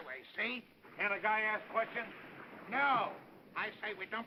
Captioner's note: man's voice